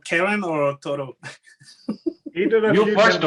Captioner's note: chattering; laughing